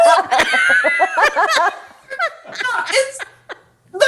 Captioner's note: laughs